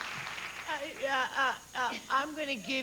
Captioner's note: stammers